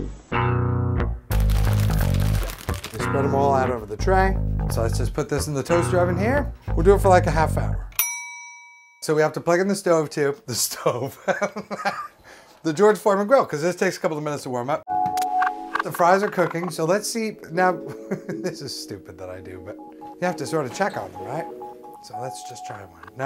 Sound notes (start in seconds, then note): 8.0 ding of timer; 11.2 laughs; 17.8 laughs